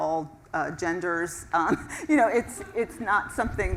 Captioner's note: laugh